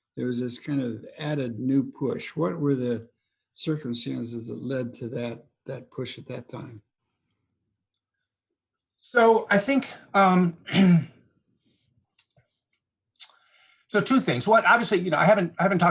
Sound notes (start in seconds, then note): 10.6 clears throat